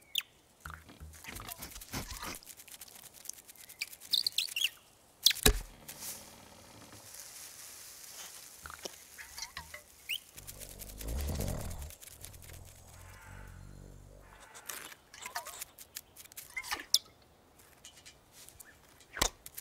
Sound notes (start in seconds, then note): 1.4 sniffing; 10.3 growling